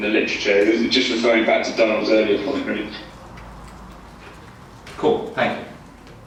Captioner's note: computer distorting speaker's voice